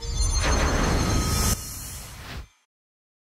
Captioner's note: shimmering